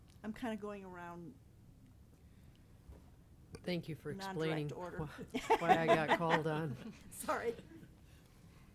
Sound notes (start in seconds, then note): 3.8 laughs